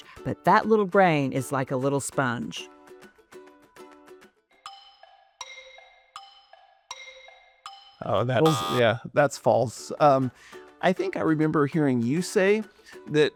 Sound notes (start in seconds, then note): 3.8 soft music; 8.4 buzzer buzzes